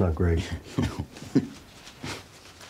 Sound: chuckles

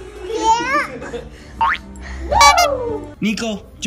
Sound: horn honks

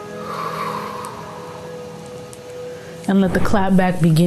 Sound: exhales deeply

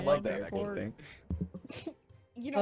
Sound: group laughing

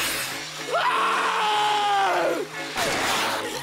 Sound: screams

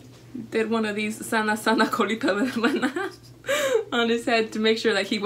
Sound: speaks foreign language

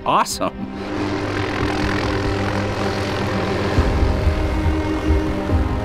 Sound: helicopter rotors humming; uplifting violin music

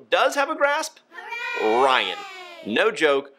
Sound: kids cheering

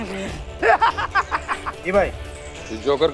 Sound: laughing

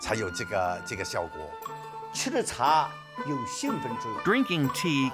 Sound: speaking Chinese

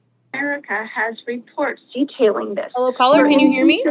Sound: background radio chatter

